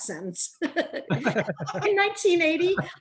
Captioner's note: all laughing